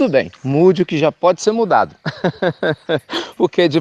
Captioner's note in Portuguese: Risos